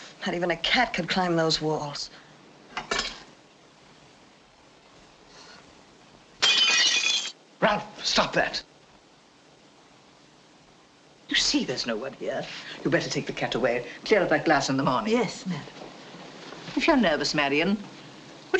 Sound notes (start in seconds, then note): 6.4 breaking glass